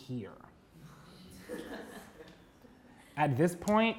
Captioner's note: audience laughing